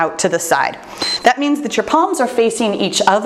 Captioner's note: timer beeps